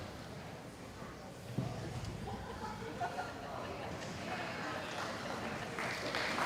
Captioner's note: laughter; applause